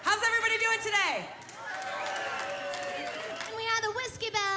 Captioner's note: crowd cheering